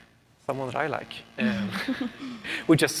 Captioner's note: laughs